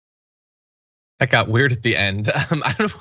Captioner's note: laugh